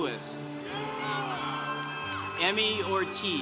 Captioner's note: congregation cheering